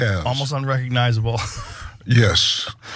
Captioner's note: laugh